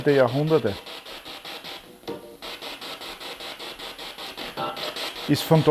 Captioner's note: noise of the spiritbox in the background